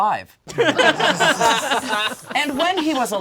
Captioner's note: all laugh